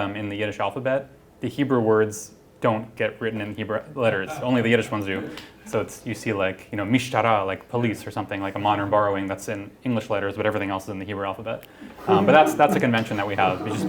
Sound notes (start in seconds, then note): 6.2 non-english speech